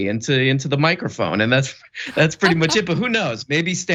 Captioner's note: laugh